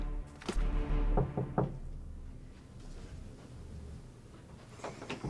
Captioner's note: soft knocking